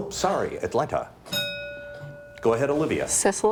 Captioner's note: bell dings